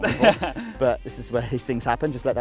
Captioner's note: laughs